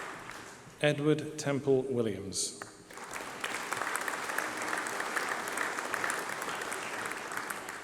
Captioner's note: applause